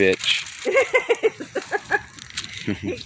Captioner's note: laughing